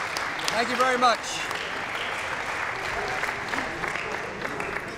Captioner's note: applause